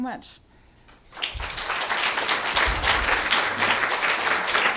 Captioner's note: applause